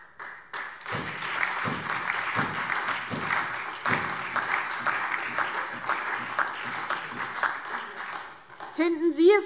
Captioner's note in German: Beifall SPD, Freie Demokraten und DIE LINKE